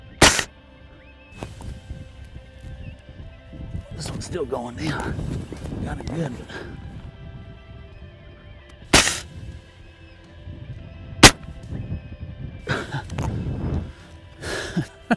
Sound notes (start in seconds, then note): 0.0 gunshot; 8.9 gunshot; 11.2 gunshot; 12.6 chuckle